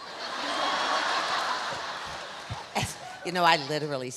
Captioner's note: audience laughs; Alexis laughs